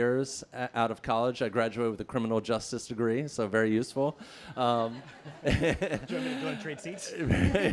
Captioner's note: laughing